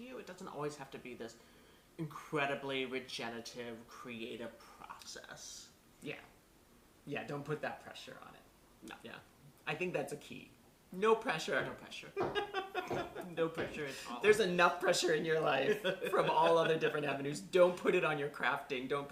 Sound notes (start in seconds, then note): 12.1 laughter